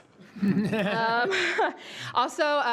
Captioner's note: all laughs